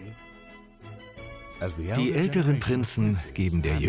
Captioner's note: voiceover